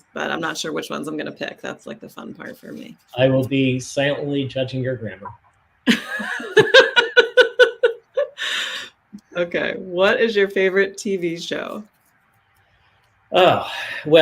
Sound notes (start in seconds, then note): 5.8 laughs